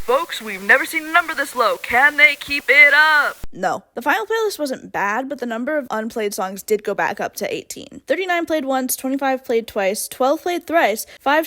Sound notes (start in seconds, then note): 0.1 radio announcer voice; 3.5 end radio voice